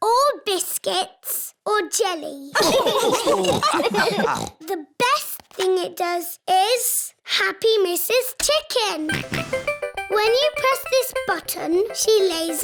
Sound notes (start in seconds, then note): 2.5 laughter